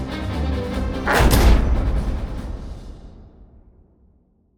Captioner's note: clanging